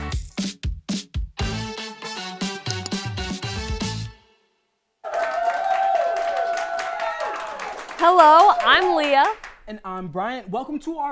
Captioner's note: intro Music; applause